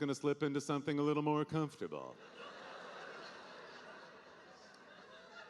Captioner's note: audience laughing